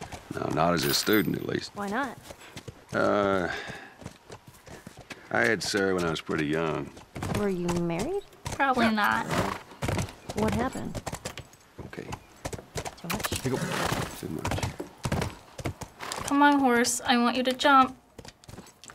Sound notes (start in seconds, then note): 11.6 Joel, sternly; 15.6 horse brays